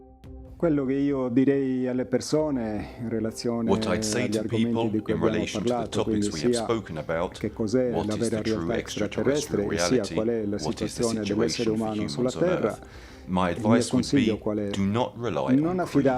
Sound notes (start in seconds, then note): 0.7 speaking in foreign language